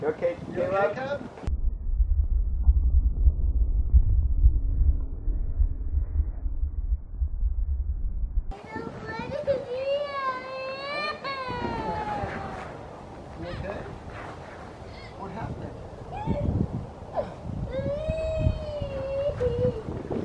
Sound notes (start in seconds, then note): 10.8 crying; 16.5 crying